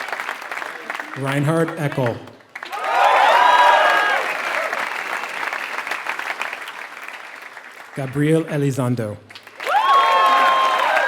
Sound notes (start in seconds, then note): 0.0 applause